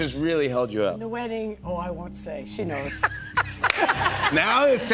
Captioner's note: laughter